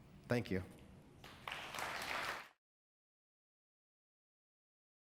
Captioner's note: audience applauding